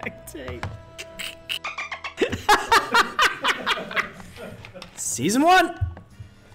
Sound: laugh

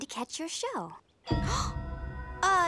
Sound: gasping

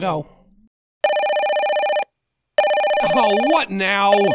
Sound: phone ringing

